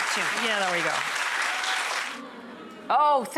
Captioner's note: clapping